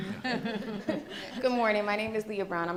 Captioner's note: audience laughing